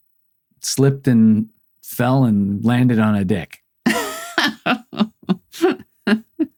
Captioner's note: laughing